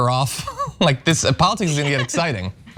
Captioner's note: laugh